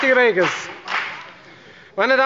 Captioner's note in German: Beifall bei der FDP